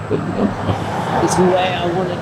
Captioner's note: traffic droning